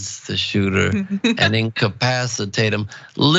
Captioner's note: laugh